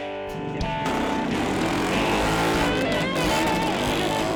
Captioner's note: engine revving